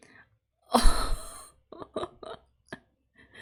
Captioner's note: laughs